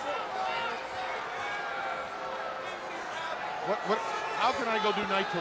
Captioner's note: crowd cheering